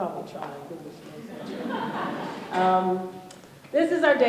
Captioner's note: laughter